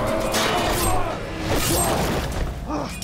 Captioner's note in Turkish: Kılıç sesleri